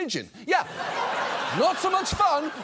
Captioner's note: audience laughs